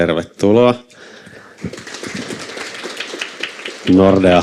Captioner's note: Aplodeja